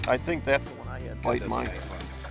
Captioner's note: voiceover